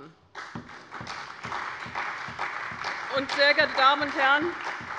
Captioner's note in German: Beifall bei der CDU und dem BÜNDNIS 90/DIE GRÜNEN